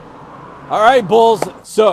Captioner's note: claps hands